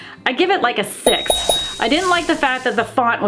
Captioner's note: bell dinging